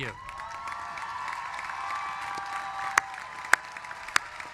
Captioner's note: cheers and applause